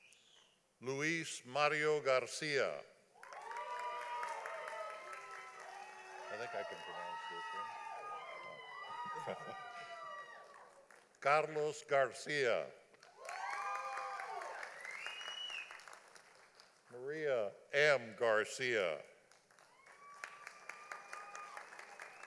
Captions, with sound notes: Louis Mario Garcia. (audience applauding) I think I can pronounce this one, I don't know. (laughing) Carlos Garcia. (audience applauding) Maria M. Garcia. (audience applauding)